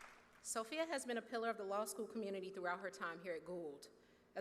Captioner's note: cheers and applause